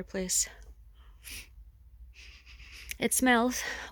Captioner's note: sniffs air